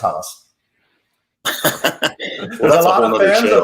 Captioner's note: laughing